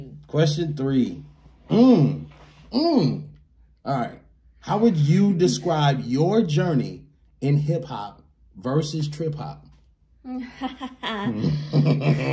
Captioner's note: laughs